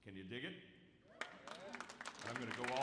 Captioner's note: audience whoops and applauds